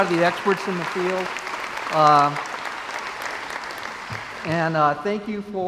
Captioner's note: crowd applauds